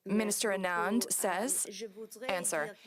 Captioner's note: speaking French